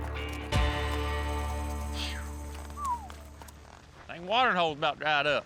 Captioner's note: whistles